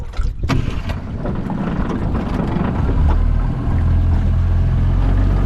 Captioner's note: motor rumbling